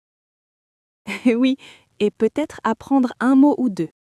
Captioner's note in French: rire